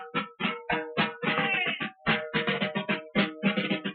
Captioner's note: officer shouts